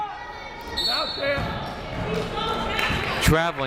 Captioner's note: whistle blows